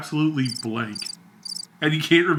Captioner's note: crickets chirping